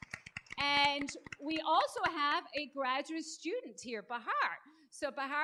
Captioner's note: applause